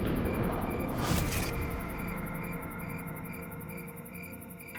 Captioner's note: crickets chirping